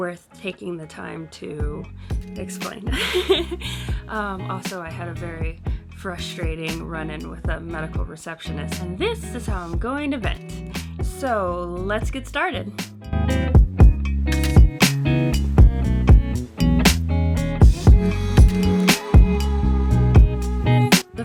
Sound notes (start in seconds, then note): 2.9 laughs